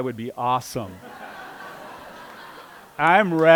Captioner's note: laughter